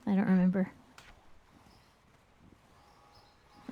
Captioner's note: birds chirping